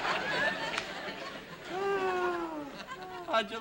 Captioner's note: sighs